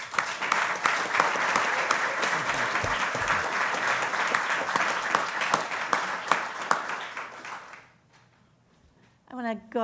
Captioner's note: applause